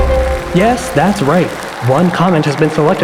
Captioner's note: synth music sting; audience clapping